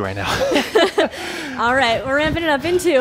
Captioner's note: laughs